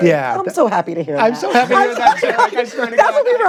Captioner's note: both laughing